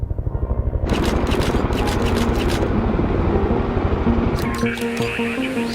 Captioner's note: camera shutter clicking; people chattering on radio